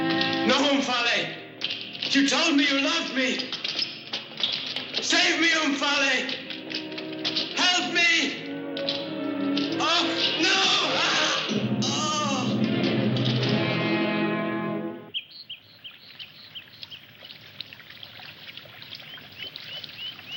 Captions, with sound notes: -No, Omphale! You told me you loved me! Save me, Omphale! Help me! Oh! No! [SCREAMS] [BIRDS CHIRPING AND WATER RUNNING]